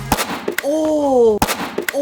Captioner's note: speaker snapping